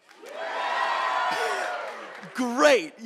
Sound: audience cheering

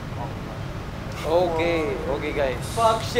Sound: winces

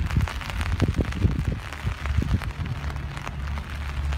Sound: rain pattering; wind rushing

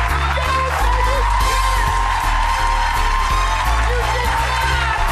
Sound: audience cheering

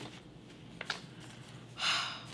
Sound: sigh

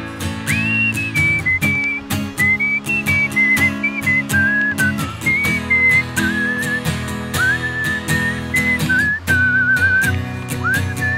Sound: whistling intensifies

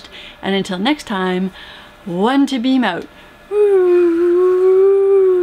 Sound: whooo

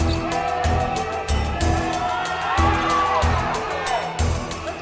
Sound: group cheering

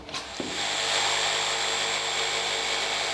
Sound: drilling noise

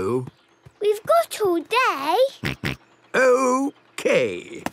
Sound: snort

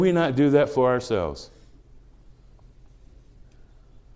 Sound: none

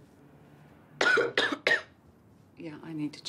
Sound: coughs

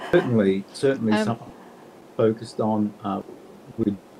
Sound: chuckling; audio cutting out

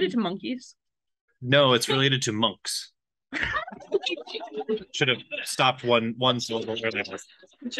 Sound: laughs

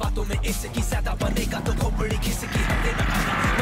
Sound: bike engine starts

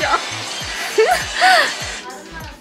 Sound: giggle

